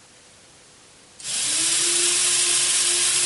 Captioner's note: motor restarts